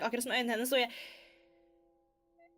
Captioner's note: breath